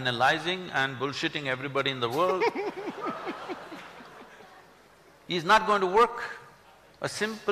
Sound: laughter

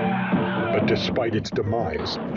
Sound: deep screaming

